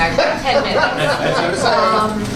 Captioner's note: laughter